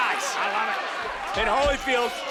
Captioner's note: crowd cheers